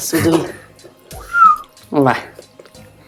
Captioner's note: whistle sound